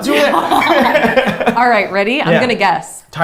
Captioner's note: both laughs